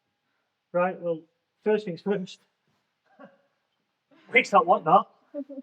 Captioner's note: chuckles